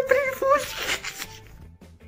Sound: laughs silly

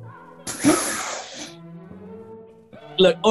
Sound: spluttering laugh

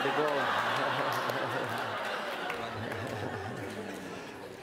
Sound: laughter

